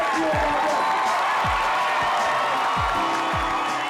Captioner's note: cheering